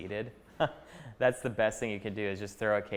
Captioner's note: chuckling